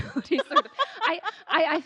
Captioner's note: laughing